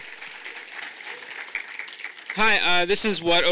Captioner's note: audience applauding